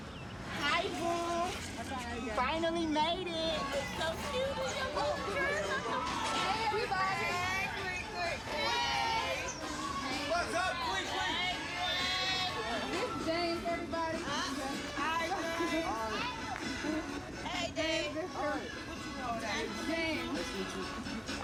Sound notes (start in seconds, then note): 5.2 laughter